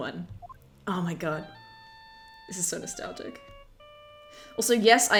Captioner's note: dramatic ringtone